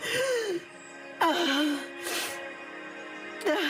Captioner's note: crying; groans, sniffles; gasps, sniffles